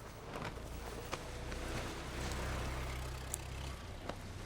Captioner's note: car approaching